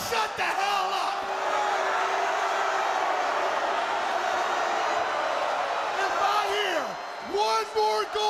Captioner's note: crowd cheering